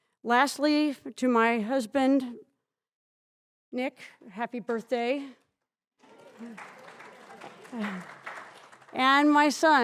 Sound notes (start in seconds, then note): 6.0 audience applauds